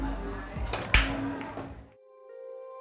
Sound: cue ball cracking; soothing jazz music

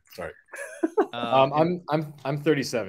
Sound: laughs

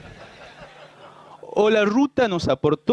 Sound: laughter

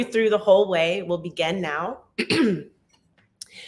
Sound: clears throat

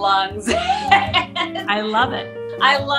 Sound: laughs

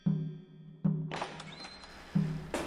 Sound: door opening

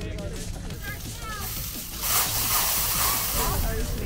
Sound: sprinkler spraying

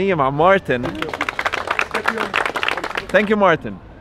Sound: claps

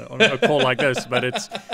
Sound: laughing

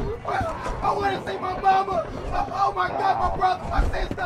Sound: grown man squeals

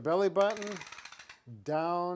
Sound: tape measure spools loudly

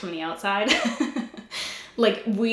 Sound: giggles

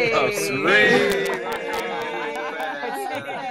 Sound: group laughing

